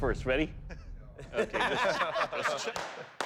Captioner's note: laughter